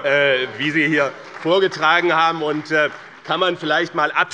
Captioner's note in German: Heiterkeit und Beifall bei dem BÜNDNIS 90/DIE GRÜNEN und der SPD